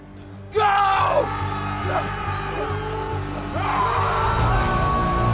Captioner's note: soldiers shouting; tense dramatic music